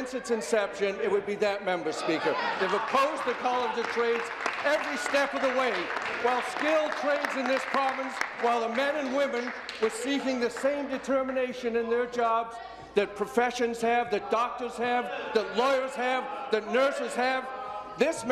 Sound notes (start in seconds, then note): 7.5 applause